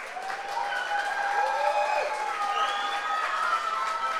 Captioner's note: audience applauds